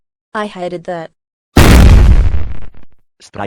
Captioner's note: gunshot